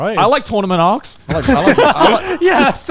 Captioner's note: everyone laughs